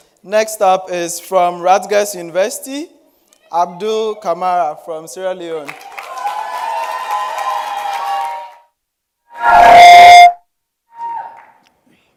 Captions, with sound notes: - Next up is from Rutgers University, Abdul Kamara from Sierra Leone. (audience cheering and clapping)